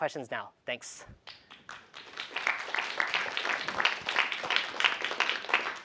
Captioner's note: applause